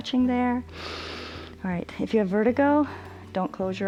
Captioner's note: inhales